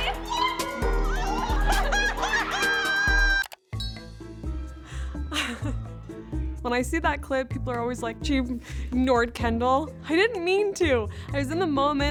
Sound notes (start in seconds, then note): 0.0 laughs; 3.3 mouse clicks; 5.4 laughs